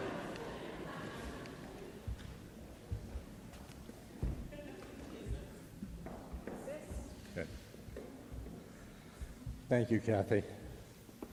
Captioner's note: laughter